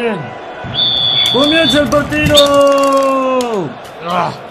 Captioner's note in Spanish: Suena el silbato